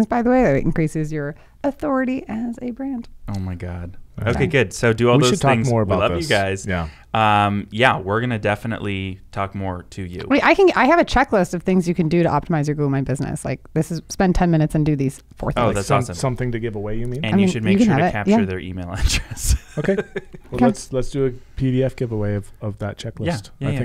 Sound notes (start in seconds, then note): 19.4 laughing